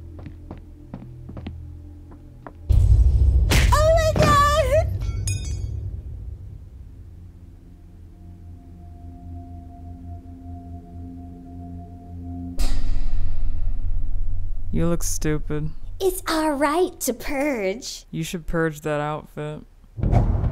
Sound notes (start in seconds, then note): 0.1 footsteps; 3.0 explosive boom; 3.5 slap; 5.0 metal clinks; 7.7 suspenseful music; 20.0 suspenseful music